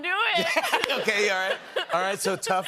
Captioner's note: laughter